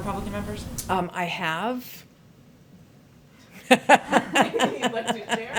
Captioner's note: laughs